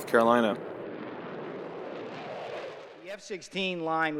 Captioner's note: planes taking off